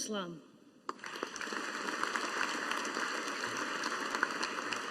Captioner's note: audience applauding